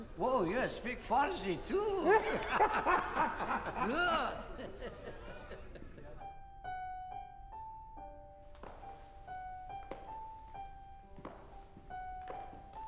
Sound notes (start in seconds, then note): 0.0 speaking Farsi; 1.9 laughing